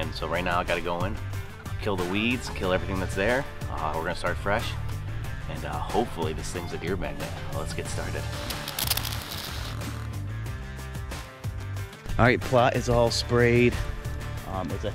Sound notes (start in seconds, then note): 9.1 spray hissing; 10.9 upbeat music